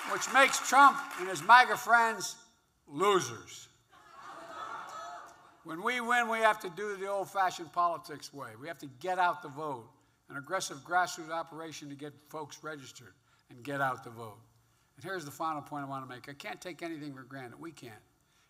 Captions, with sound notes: Which makes Trump and his MAGA friends losers. (Laughter.) When we win, we have to do it the old-fashioned politics way. We have to get out the vote -- an aggressive grassroot operation to get folks registered and get out the vote. And here's the final point I want to make. I can't take anything for granted -- we can't.